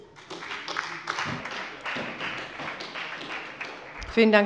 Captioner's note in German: Beifall bei der SPD